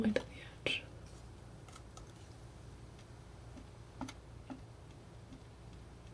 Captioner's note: scratching